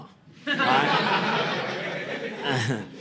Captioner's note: audience laughing